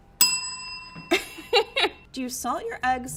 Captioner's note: rings bell